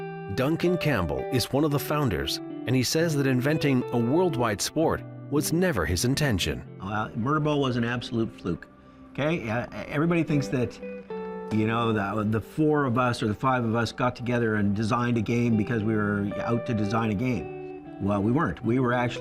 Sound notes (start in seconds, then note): none